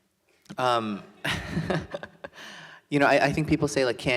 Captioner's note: laughs